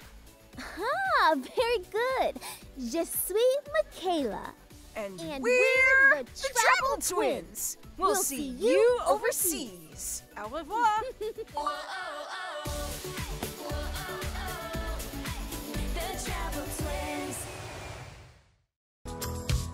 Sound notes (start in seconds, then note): 3.1 speaking in French; 11.0 giggling; 12.6 upbeat music music